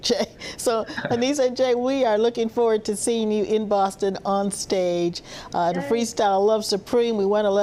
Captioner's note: laughter